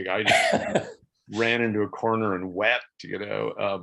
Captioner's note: laughs